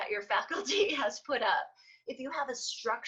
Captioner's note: laughs